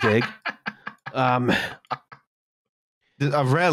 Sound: laughs

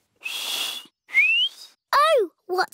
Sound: whistles

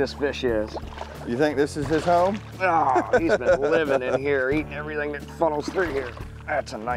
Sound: laughs

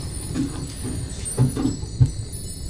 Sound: fireplace crackle

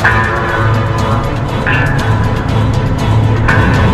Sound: swords clang

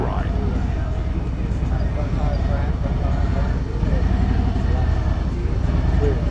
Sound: motorcycle engine rumbling

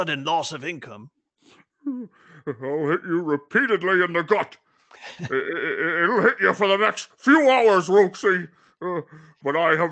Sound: sob

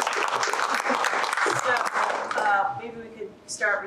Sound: clapping

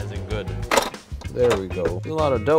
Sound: bowl clacks

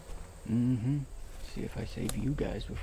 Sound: quietly

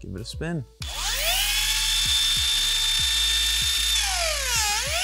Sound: rotary whirs

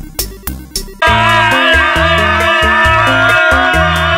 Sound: upbeat music; yelling

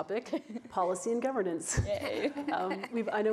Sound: laughs

